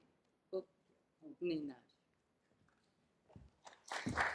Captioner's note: narragansett speech; applause